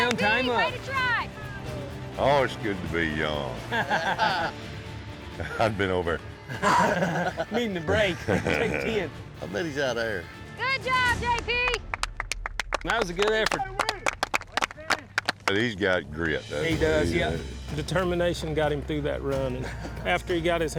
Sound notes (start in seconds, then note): 0.0 all shouting; 11.3 everyone clapping